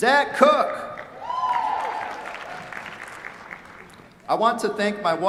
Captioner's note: cheers, applause